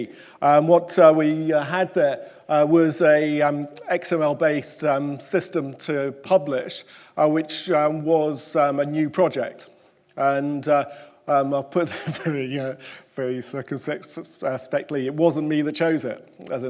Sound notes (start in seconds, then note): 11.9 chuckles